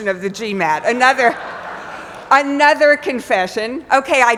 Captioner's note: laugh